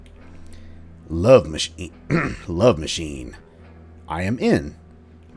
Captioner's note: clears throat